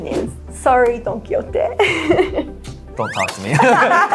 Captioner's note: giggles; both laugh